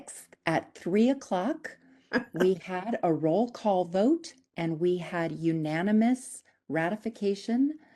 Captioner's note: laughing